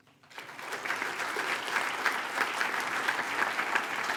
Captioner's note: attendees applaud